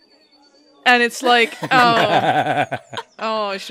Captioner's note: laughter